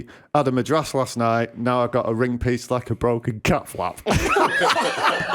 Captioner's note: laughter